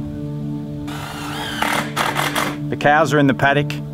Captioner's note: drill